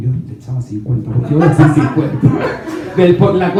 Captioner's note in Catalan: rialles